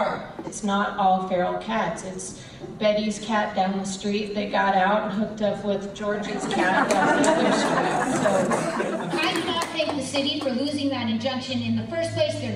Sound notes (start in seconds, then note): 6.2 audience laughs